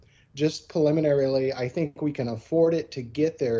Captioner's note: faintly speaking